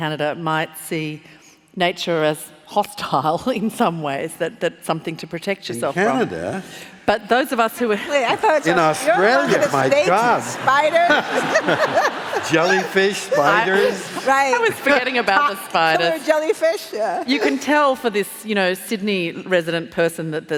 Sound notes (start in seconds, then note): 12.8 laughing